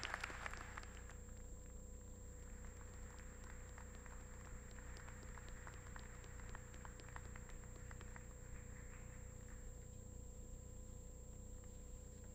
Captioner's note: applause